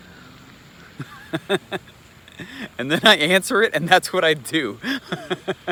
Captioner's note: laughs loudly